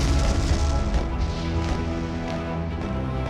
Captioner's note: loud explosions